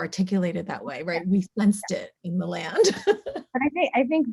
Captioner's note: laughs